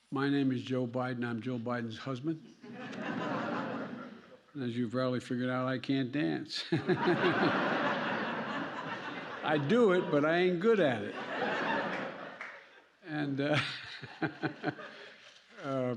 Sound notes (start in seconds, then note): 2.6 laughter; 6.6 laughter; 13.4 laughter; 13.4 laughs